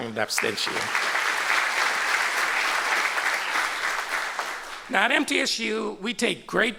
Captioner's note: applause